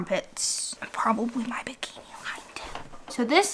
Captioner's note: whispers